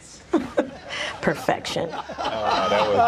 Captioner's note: laughter